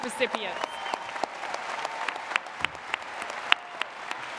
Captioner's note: audience applauds